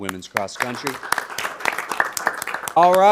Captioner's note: audience applauding